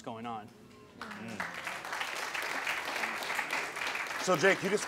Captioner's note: audience applauding